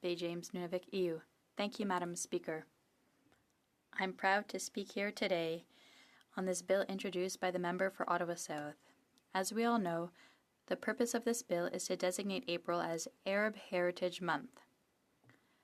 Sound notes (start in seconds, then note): 0.2 speaking French